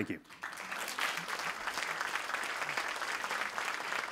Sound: audience clapping

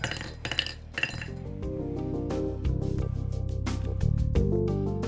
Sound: rattle reel chiming

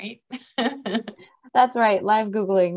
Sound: laughs

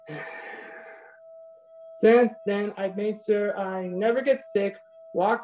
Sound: sighs

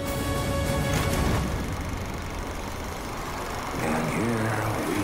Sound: triumphant music; film reel rattling

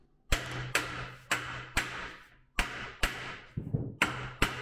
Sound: mallet pounding

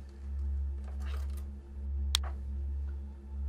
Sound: click

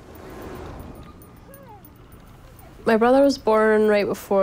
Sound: traffic rumbles

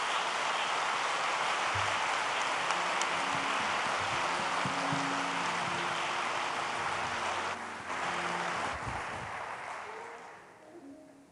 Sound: applause

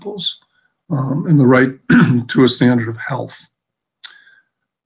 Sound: clears throat

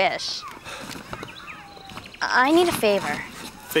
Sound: Sebastien pants

